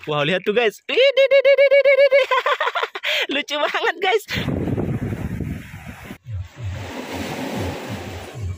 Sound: laughs

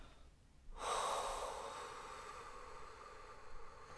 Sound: sighs

